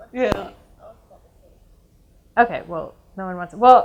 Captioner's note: audience mumbles